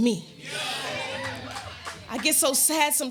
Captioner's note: audience exclaiming